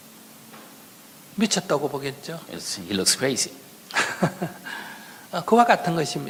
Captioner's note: laughter